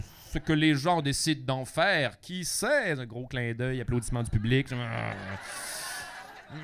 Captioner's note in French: gros clin d’oeil, applaudissements du public